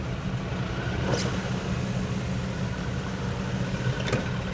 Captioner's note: window rolls up